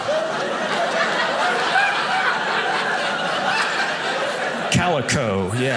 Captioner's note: audience laughing